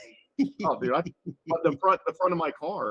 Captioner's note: laughing